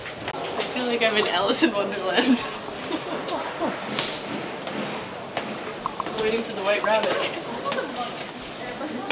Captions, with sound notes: I feel like I'm in Alice in Wonderland [both laughing] Waiting for the white rabbit